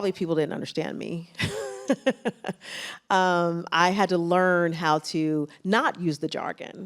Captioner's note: laughs